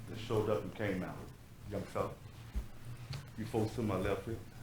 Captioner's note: speaks off microphone